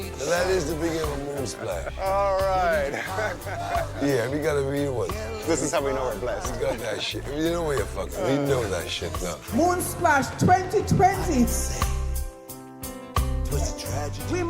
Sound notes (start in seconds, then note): 3.1 laughs